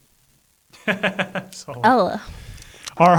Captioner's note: laughs